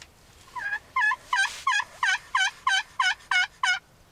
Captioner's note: turkey gobbling